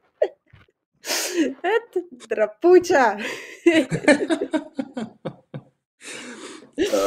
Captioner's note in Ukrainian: сміх